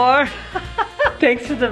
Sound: sexy music; laughs

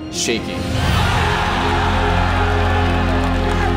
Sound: crowd roaring

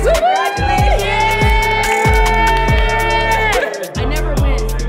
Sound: cheering

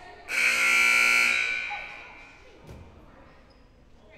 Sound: loud buzzer blaring

